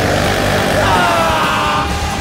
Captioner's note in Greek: ουρλιαζει